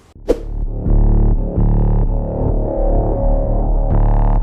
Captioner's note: futuristic sounds